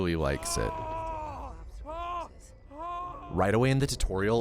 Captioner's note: adult male moaning